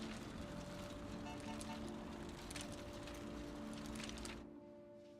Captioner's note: distant horn honks